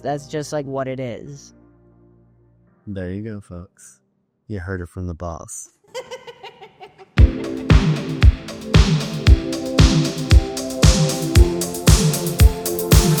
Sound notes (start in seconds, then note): 5.9 laughing; 7.2 upbeat music